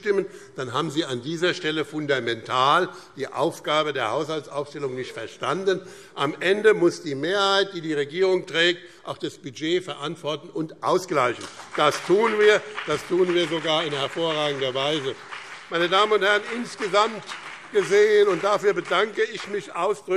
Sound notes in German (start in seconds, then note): 14.9 Beifall BÜNDNIS 90/DIE GRÜNEN und CDU